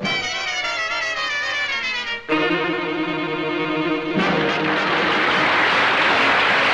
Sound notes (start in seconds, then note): 0.0 lively orchestral music; 4.1 audience applauds